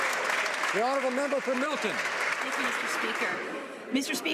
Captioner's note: some Applause